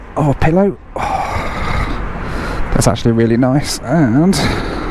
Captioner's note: sighs